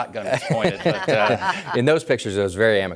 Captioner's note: guests laughing